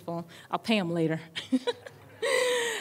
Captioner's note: laughter